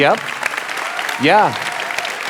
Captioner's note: audience applauding